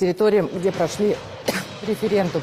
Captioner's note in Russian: мария ситтель кашляет